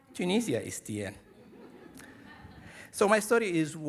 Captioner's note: audience laughing